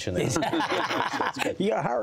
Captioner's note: laughter